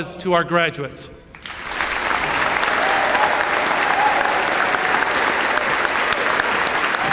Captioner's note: applause